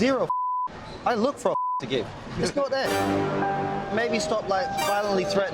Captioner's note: beeps